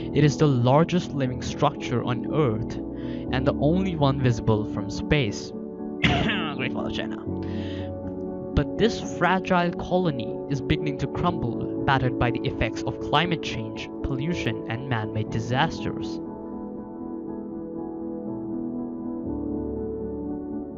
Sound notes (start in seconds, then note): 6.0 cough